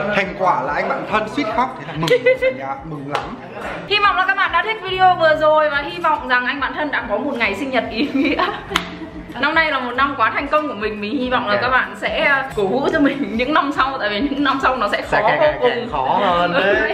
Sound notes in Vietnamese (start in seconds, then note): 8.0 cười